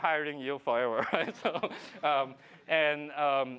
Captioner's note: laughs